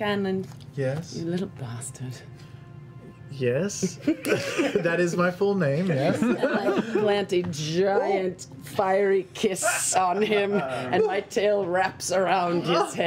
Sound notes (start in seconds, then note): 5.8 laughter